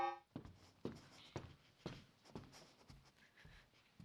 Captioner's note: footsteps